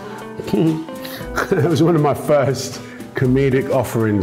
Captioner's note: chuckles